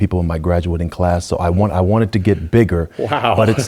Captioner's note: laugh